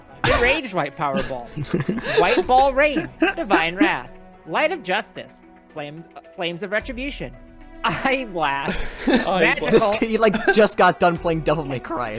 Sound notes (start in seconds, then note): 1.1 everyone starts laughing; 1.1 laughs; 8.6 starts laughing